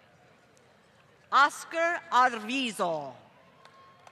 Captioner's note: applause